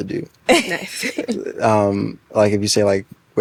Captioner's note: laughing